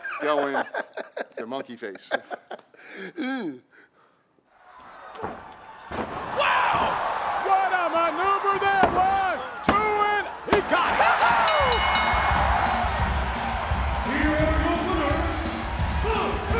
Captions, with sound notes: Showing the monkey face. (Glenn laughs) Wow! What a maneuver there! One, two, and he got it! (bell dings) (crowd roars) (upbeat music begins) Here are your winners, the HeadBangers!